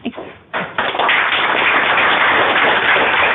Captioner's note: applause